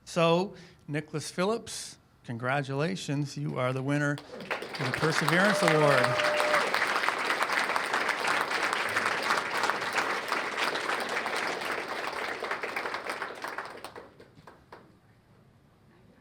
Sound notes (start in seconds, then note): 6.9 cheers and applause